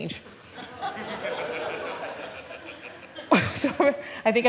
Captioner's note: laughter